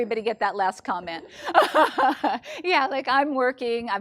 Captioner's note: woman laughing